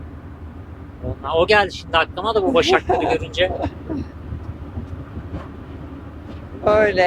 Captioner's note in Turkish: kahkaha